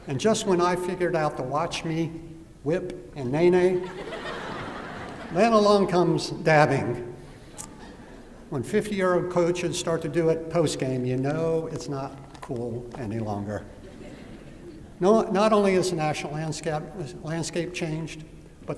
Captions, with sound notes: And just when I figured out the "Watch Me Whip and Nae Nae,"-- [LAUGHTER] --then along comes dabbing. When 50-year-old coaches start to do it post game, you know it's not cool any longer. [LAUGHTER] Not only has the national landscape changed,